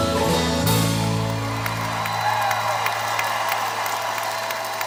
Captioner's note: audience cheering